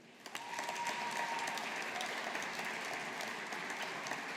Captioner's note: audience applauding